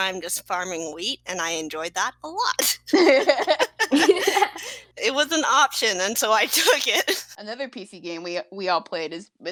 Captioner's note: laughing